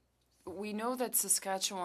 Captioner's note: speaking French